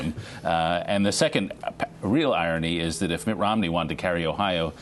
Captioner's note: laughter